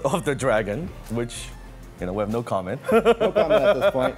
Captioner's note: laughs